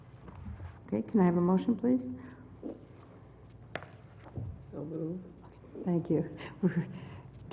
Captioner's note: laugh